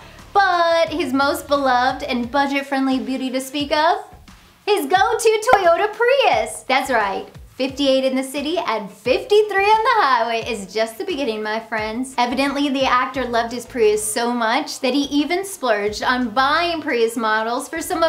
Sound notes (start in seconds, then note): 5.4 graphics pop